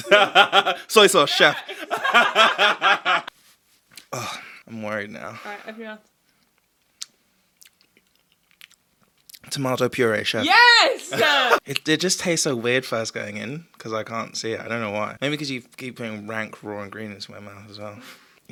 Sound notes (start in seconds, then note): 0.0 boyfriend laughs; 2.1 and boyfriend laugh